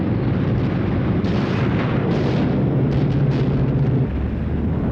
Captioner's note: artillery firing